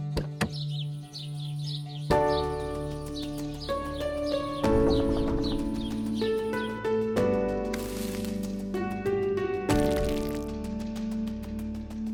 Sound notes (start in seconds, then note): 0.3 birds chirping; 2.1 music picks up; 9.7 rocks crunching